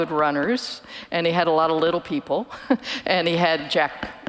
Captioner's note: chuckles